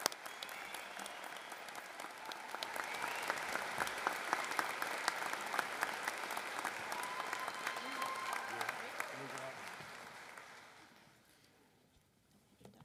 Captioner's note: applause